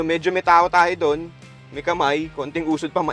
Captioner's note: none